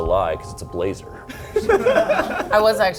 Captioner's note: laughs